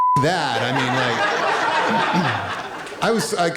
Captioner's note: laughter